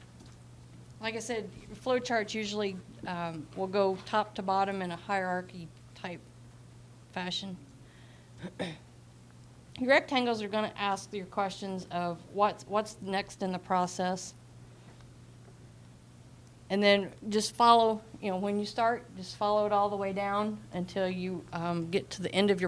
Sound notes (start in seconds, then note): 8.4 clearing throat